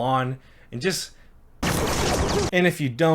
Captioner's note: shooting